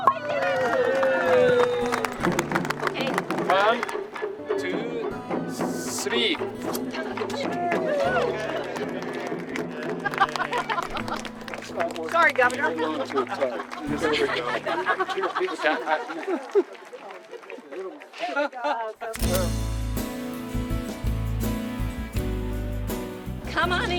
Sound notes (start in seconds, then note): 0.0 group cheering; 3.8 indistinct chatter and laughter; 13.7 indistinct chatter and laughter; 20.7 group applauding